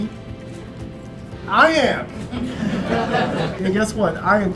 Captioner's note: laughs